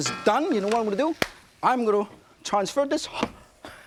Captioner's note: claps